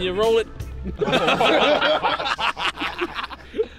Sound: laughter

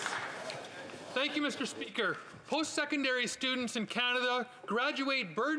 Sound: applause

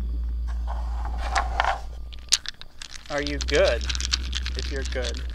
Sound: dice rattling

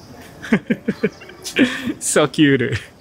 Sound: chuckles

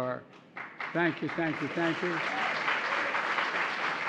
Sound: applause

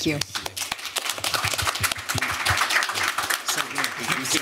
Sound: applause

